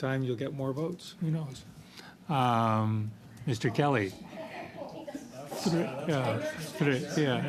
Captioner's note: laughter